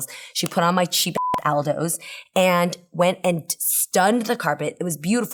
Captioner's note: beep